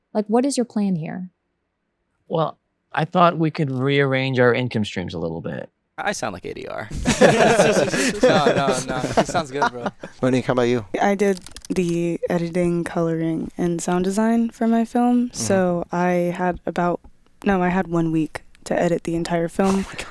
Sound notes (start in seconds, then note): 6.8 attendees laughing